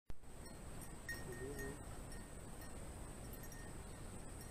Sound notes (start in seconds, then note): 0.4 collar jingling